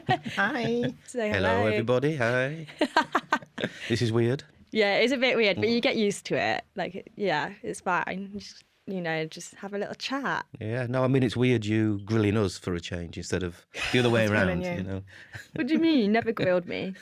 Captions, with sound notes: -Hi. -Say hello. Hello, everybody. Hi. [LAUGHTER] This is weird. Yeah, it is a bit weird but you get used to it, like yeah, it’s fine, you know, just have a little chat. No, I mean it’s weird you grilling us for a change, -instead of the other way around. -Us grilling you. What do you mean, you never grilled me?